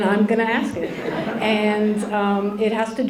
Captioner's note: laughter